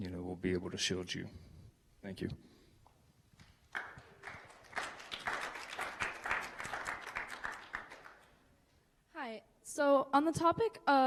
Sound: applause

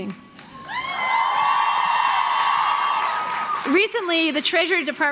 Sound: crowd cheering

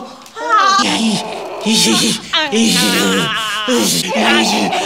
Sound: both groaning

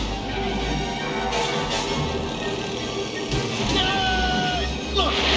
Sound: tires screeching; tense music

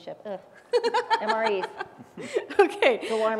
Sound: laugh

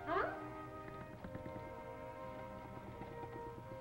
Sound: prying sounds

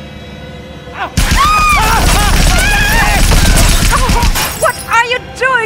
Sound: gunshots, screams

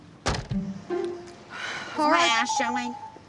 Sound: whimsical music; sigh

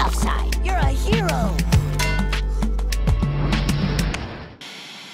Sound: clang; explosion; white noise

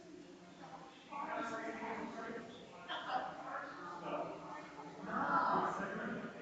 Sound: people chattering distantly continues

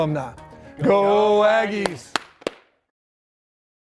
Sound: clap

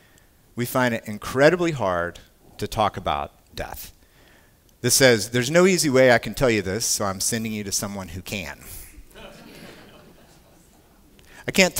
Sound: laughter

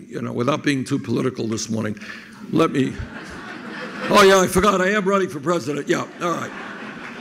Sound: crowd laughing

